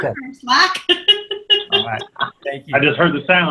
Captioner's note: laughs